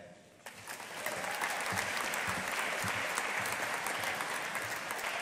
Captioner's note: audience applauding